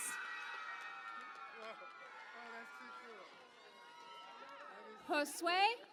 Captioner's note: cheering and Applause